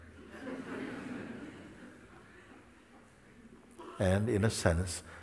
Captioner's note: Lachen